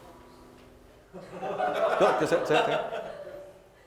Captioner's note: laughs